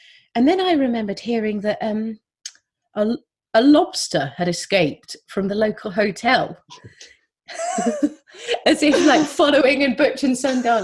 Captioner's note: laughs